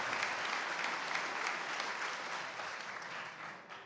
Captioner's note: cheers and applause